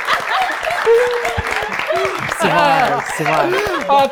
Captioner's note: cheers